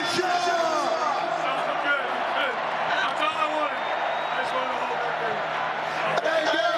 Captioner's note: applause